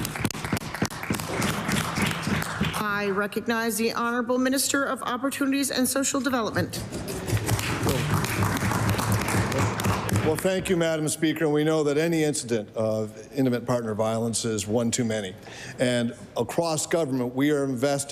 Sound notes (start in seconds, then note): 4.6 applause